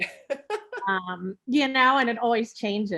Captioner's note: laughing